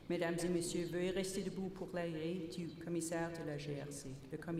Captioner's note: repeated in French